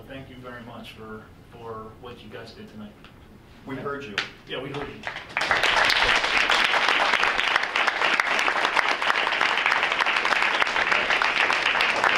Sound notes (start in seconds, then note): 4.8 audience applauds